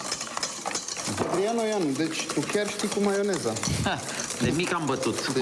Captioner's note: speaking foreign language